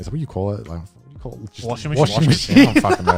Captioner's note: laughs